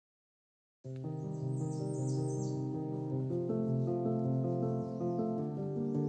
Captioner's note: hopeful music; birds chirping